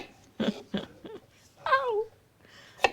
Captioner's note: laughing